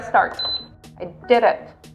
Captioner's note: beeps